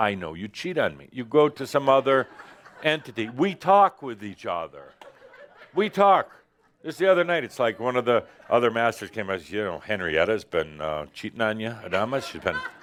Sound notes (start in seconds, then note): 2.2 some laughter